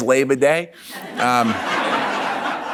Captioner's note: laughs